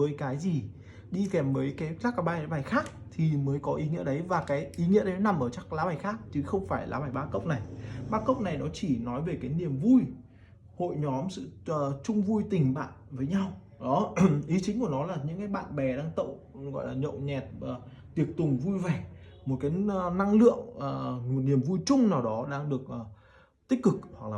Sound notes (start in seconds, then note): 14.1 clears throat